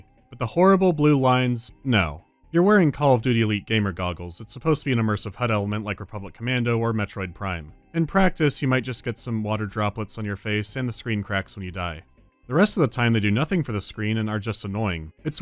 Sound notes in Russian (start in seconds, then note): none